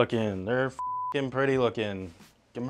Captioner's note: beep